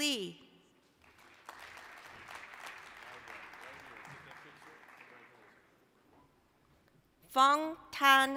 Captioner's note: applause